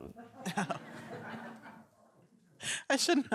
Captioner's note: laughter